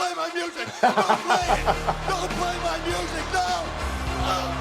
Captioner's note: laugh